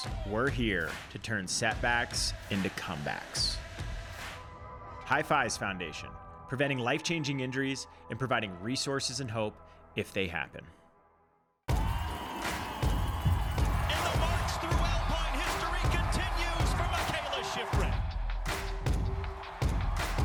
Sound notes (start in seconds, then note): 11.6 crowd cheering; 18.4 uptempo music